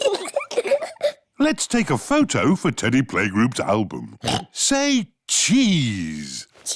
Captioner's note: both giggle; oinks